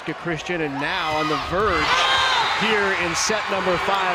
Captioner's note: crowd and players cheering